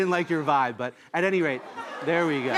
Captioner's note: audience laughs